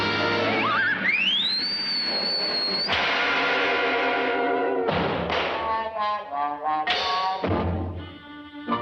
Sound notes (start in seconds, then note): 0.6 Rudolph whistling; 3.2 body slams